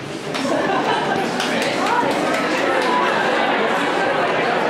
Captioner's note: people chattering